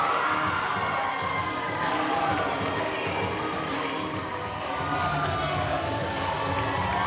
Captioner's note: crowd cheering